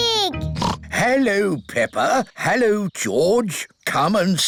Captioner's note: oinks